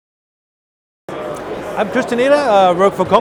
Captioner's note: crowd roaring